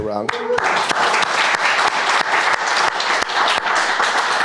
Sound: crowd applauding

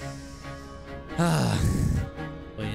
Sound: sigh

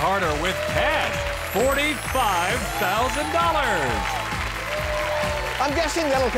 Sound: audience applauds

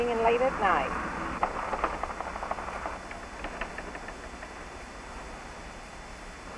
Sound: rattling door

